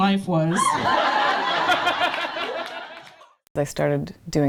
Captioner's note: laughter